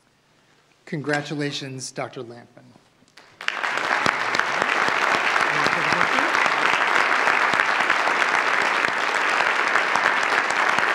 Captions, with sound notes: Congratulations, Dr. Lampman. (audience applauds) You want to take a picture? (audience applauds)